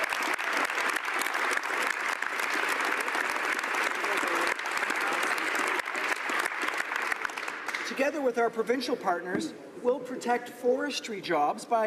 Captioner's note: applause